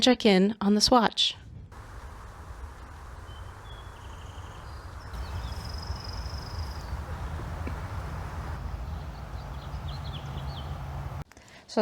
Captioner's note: birds singing